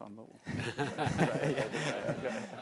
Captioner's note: laughter